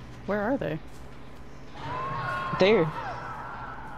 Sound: screaming in the distance

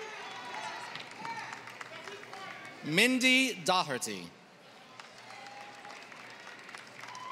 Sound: applause

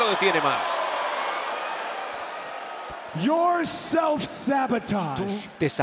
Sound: applause

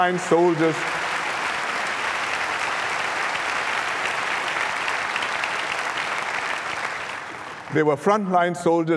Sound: applause

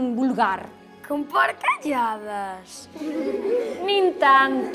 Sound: kids laugh

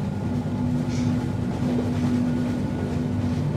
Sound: sniffs

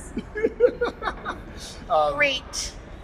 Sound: laughter

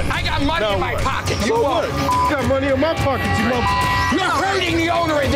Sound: beep

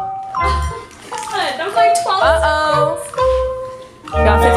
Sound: mumbling

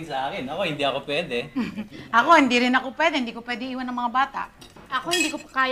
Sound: chuckles

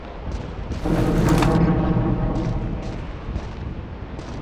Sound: metallic rumbling

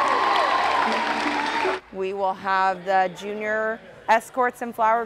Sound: applause

